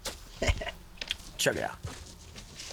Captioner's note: chuckles